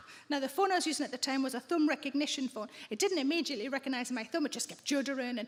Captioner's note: none